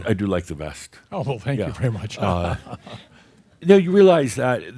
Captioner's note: he chuckles